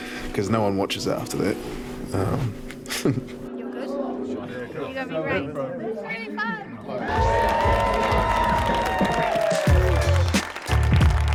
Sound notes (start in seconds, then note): 2.8 chuckles; 6.9 audience cheers; 8.7 upbeat music